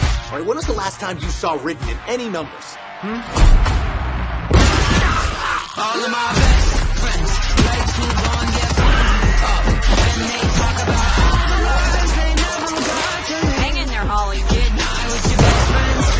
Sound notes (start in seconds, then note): 4.7 creature roars; 6.2 rock music playing